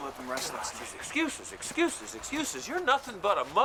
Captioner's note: groans